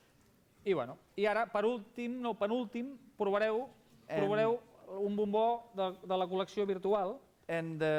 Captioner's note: non-english speech